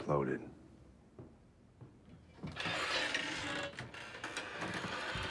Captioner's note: la porte s'ouvre en grinçant